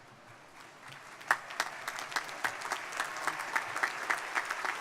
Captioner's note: crowd applauding